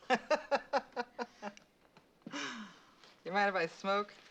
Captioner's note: laughing